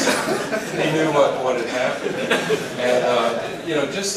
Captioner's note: laugh